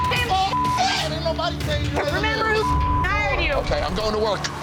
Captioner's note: beep; beep